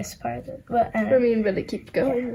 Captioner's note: murmuring